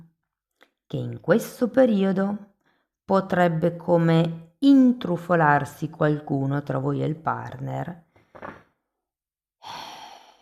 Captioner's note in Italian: sospiri